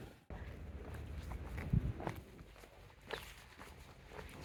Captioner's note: footsteps